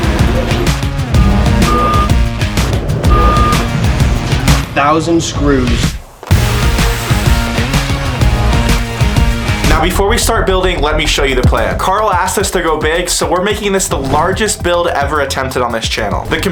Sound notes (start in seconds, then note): 3.0 forklift beeps; 7.0 box scrapes on tile floor